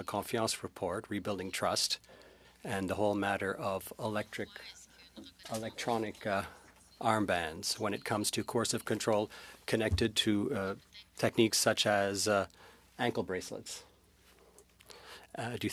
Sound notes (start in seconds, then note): 6.8 speaking French